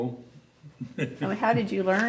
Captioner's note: laughs